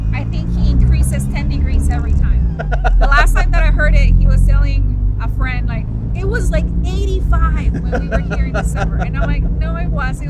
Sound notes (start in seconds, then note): 2.4 laughs